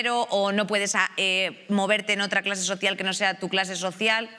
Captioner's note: none